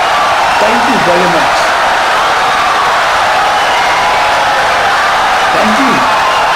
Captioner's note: audience cheering, applauding for 17 seconds